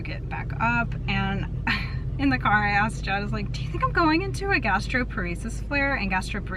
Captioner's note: laughs